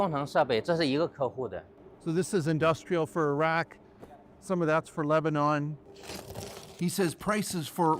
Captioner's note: speaking alternate language